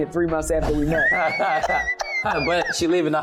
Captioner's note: laughter